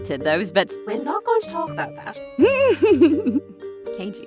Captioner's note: giggles